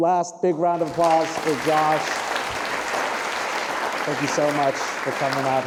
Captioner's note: audience applauding